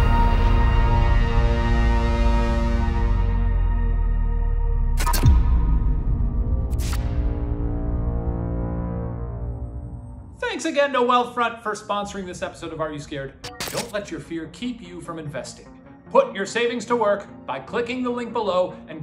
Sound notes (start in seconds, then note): 0.2 intense eerie music; 6.7 electrical buzzing